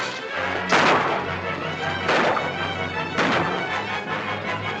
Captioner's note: gunshots - tense music